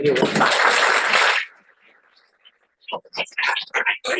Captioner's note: applause